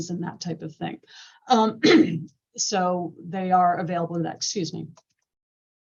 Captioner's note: cough